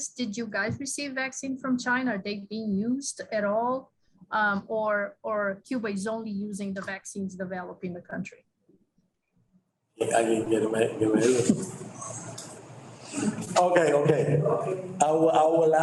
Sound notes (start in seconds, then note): 10.3 speaks in foreign language